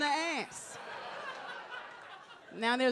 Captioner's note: audience laughs